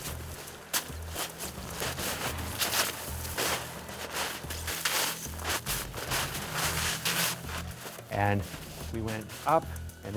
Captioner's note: crunching snow